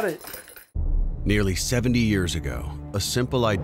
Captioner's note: voiceover